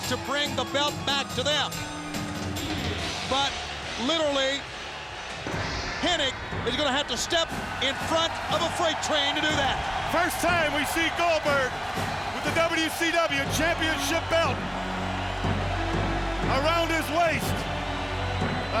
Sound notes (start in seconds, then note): 9.9 audience cheers; 9.9 pensive music